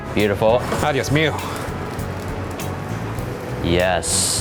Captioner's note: speaks in Spanish